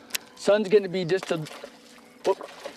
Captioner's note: splash